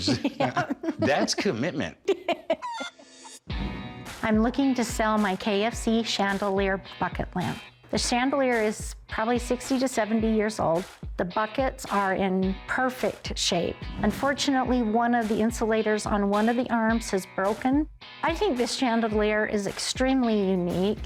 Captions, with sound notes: [laughter] That's commitment. [laughs] [chicken clucks] I'm looking to sell my KFC chandelier bucket lamp. The chandelier is probably 60 to 70 years old. The buckets are in perfect shape. Unfortunately, one of the insulators on one of the arms has broken. I think this chandelier is extremely unique.